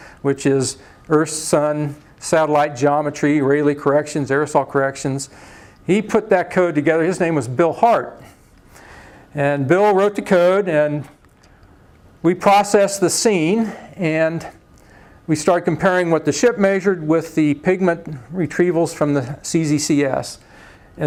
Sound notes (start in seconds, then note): none